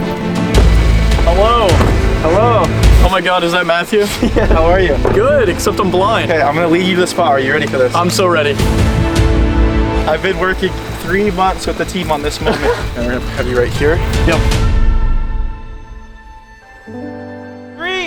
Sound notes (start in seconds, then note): 3.9 laughs; 9.7 tense music builds; 12.3 laughs; 14.8 peaceful music